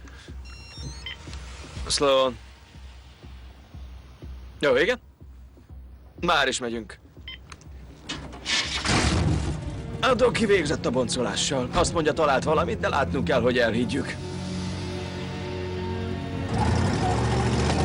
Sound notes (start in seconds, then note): 5.6 engine starts